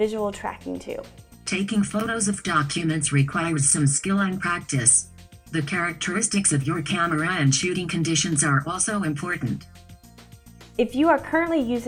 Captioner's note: screen reader speaking